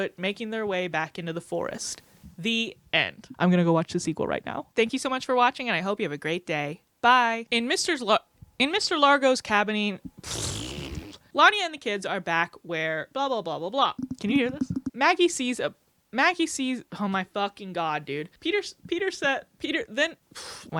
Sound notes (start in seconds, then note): 10.1 mouth fart; 13.9 mic thunking; 20.3 exhales